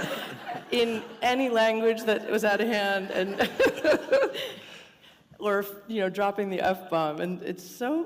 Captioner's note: laughter; chuckle